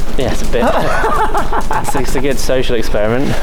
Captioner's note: laughing